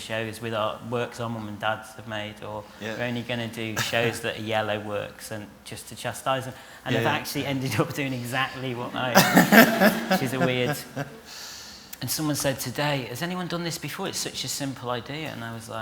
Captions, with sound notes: with artworks our mums and dads have made, or we're only going to do shows that are yellow works, just to chastise them. And I've actually ended up doing exactly that! (LAUGHTER) Which is weird. And someone said today, "Has anyone done this before? It's such a simple idea." And I was like...